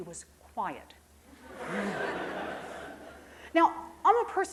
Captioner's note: crowd chuckling